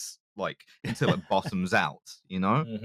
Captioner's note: chuckles